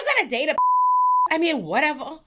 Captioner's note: beep